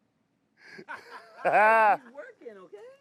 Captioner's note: group laughing